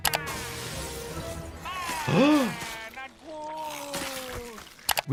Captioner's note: gasps